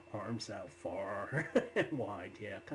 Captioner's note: laughs